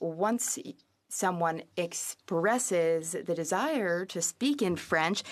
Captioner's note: speaking French